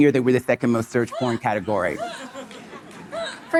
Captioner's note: audience laughing